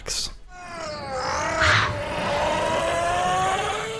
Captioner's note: screaming